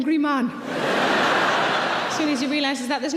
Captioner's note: audience laughing